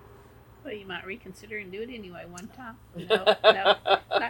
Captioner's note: laughter